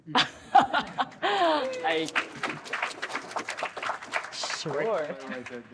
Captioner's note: laughs; audience applauds